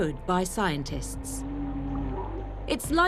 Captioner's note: humpbacks vocalising